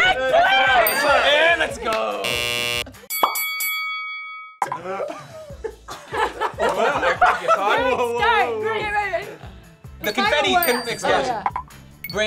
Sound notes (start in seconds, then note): 2.2 buzzer blares; 3.1 boxing bell rings; 4.7 group laughing